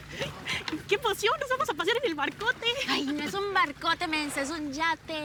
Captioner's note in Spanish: Risas